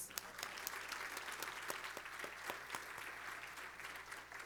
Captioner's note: applause